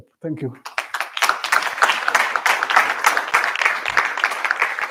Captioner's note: applause